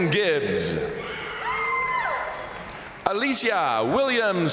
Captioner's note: crowd cheering; crowd applauding